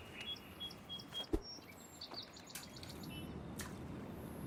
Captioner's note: birds chirping